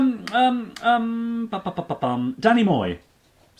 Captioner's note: humming